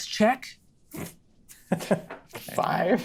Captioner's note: snorts; laughs